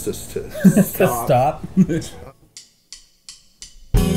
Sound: laughing

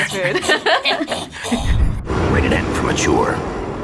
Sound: laughs; growls

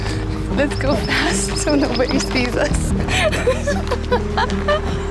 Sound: laughter

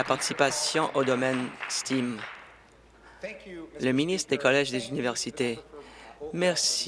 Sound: applause

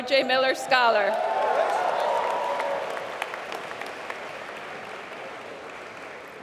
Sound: applause

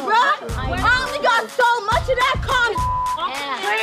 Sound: beep

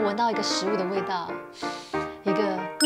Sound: inhale

